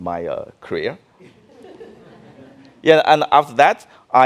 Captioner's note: audience laughing